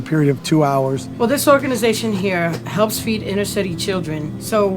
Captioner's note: voice-over